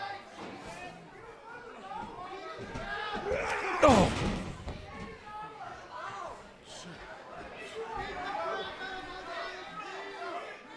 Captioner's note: crowd cheering